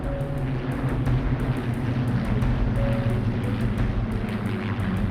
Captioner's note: plane engines roaring